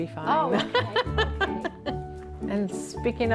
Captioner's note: laughs